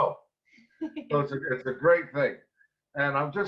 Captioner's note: giggles